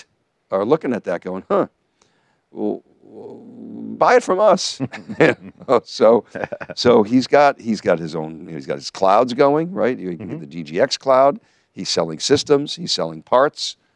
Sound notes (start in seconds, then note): 6.2 both chuckling